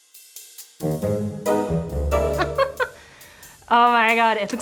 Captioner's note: laughs